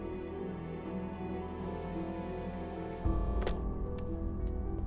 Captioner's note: Cell phone vibrating